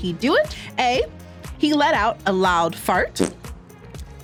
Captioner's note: fart rips